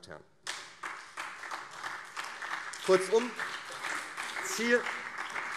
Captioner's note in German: Beifall CDU und SPD